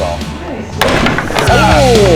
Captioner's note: clattering